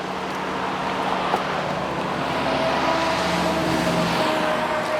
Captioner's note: vehicles whooshing